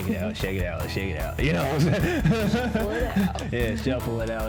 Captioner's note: laughs